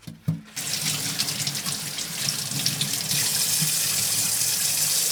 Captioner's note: water running